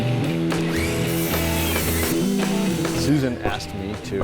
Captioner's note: heavy rock music; sawing whirring